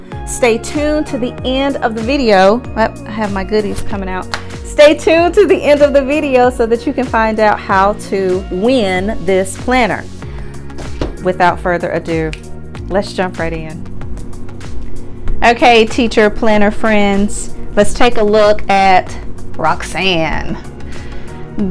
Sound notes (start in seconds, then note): 12.2 snaps fingers